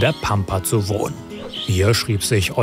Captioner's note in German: Vogelzwitschern